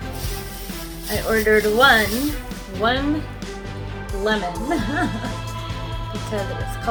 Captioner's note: laughs